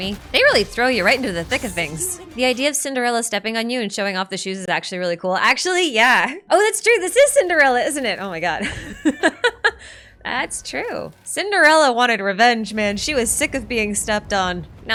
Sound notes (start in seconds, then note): 8.4 laughs